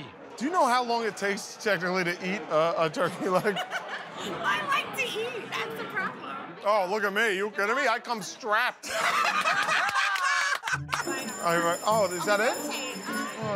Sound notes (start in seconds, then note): 3.2 laughs; 8.8 laughter; 11.0 bell rings